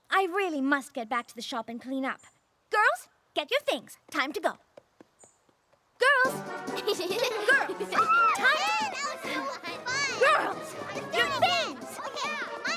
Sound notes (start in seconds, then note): 6.7 laughter